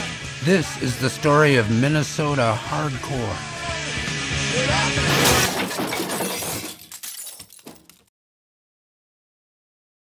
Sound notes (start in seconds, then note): 3.8 energetic rock music; 5.0 glass shattering